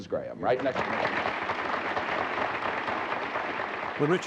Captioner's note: cheers and applause